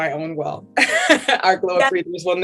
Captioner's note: laughs